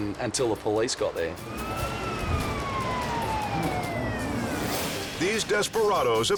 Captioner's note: siren wailing